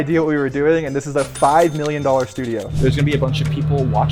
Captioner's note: cash register dings